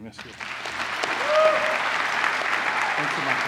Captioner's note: applause